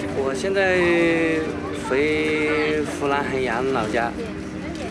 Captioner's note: hablan un idioma extranjero